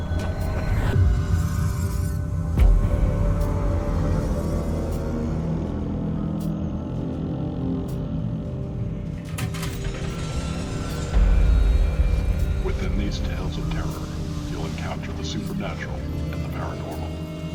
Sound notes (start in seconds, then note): 0.1 eerie, mysterious transition sound; 9.4 surreal horror sound